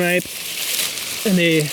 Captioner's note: foliage rustles